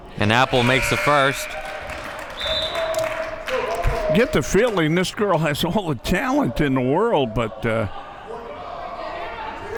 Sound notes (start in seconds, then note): 0.5 buzzer blares; 1.7 audience cheering; 2.1 whistle blows